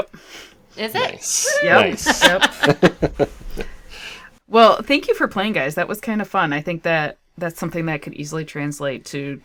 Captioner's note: laughter